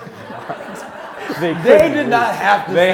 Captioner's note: audience laughing